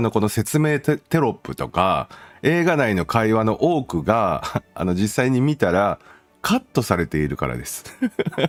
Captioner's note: laughter